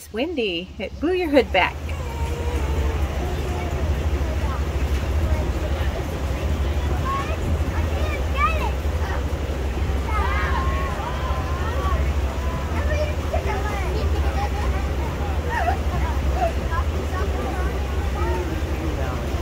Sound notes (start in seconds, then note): 2.4 background chatter and waves splashing